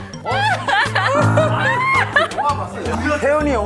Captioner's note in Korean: 깔깔깔